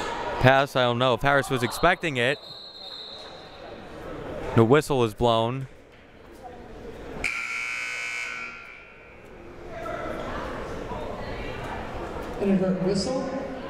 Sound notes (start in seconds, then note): 1.7 whistle blowing; 7.2 buzzer sounding